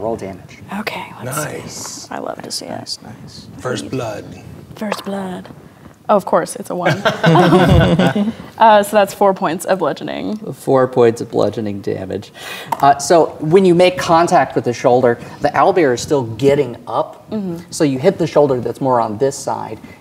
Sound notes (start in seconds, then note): 5.2 dice rolling; 6.8 players laughing